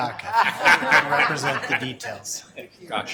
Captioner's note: laughing